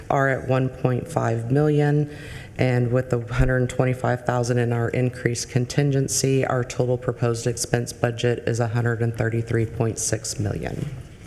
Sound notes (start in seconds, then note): none